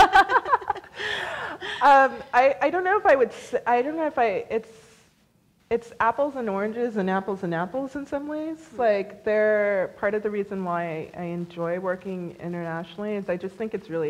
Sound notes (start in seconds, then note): 0.0 laughs; 3.1 laughs